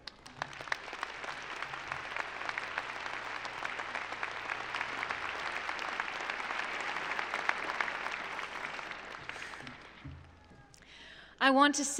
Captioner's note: applause